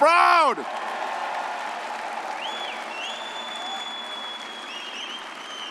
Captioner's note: all applauding and cheering